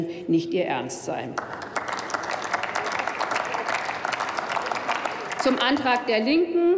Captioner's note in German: Applaus